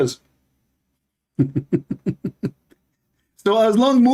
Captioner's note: Ketawa